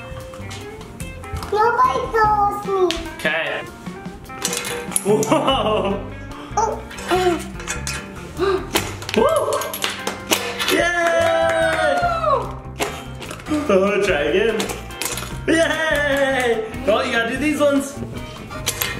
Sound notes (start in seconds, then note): 4.3 cards clinking; 10.3 hands clapping; 18.6 cards clinking